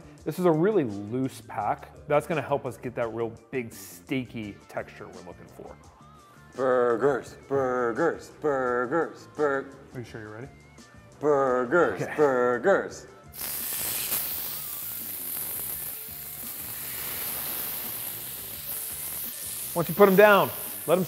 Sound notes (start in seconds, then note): 13.3 pan sizzles; 13.4 mellow rock music